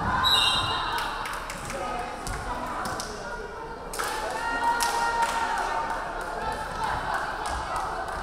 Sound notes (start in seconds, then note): 0.2 referee whistling; 0.9 crowd clapping